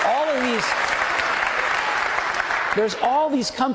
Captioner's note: audience applauding